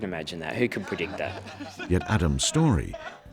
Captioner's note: laughing; voiceover